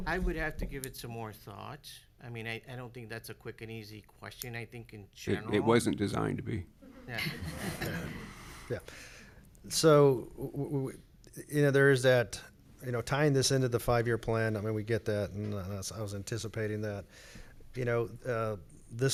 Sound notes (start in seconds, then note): 7.1 audience laughs